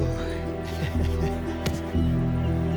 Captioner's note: chuckles